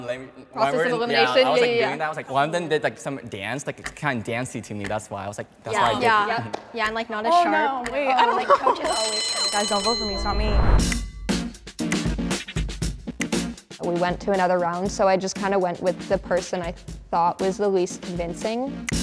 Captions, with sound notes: - Process of elimination. Yeah, yeah, yeah. - Yeah, I was like doing that. I was like, one of them did some dance that was kinda dance-y to me, that's why. I was like-. - Yeah. - Yup. - Yeah and like not as sharp. - Oh no wait, I don't know. (bell ringing) Guys, don't vote for me. It's not me. (energetic music) (finger snapping) - We went to another round, so I just kind of went with the person I thought was the least convincing.